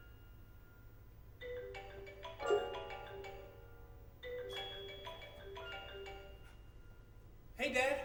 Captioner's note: phone rings